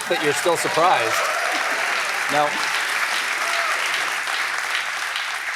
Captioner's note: applause